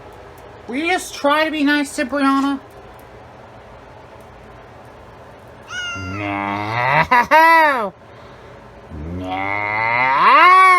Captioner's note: meows angrily